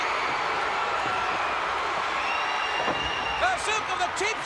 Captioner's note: crowd cheering